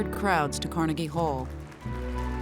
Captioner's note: audience clapping